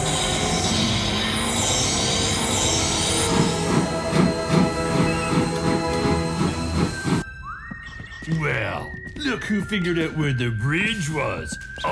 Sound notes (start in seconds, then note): 3.1 steam engine chuffing